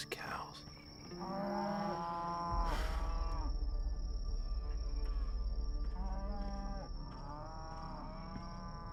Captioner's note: mooing; tense music